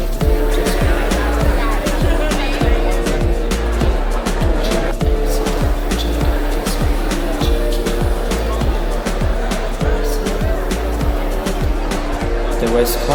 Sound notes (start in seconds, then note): 2.7 crowd noise mixed with fading Reggaeton music